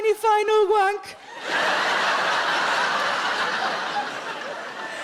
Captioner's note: audience laughing